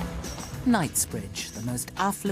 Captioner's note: upbeat music; voiceover